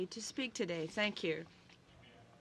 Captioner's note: speaking French